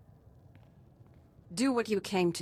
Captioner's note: crackling